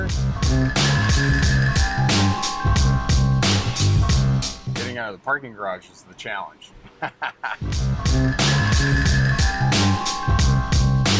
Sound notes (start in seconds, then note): 0.0 bright upbeat music; 6.8 laughing; 7.6 bright upbeat music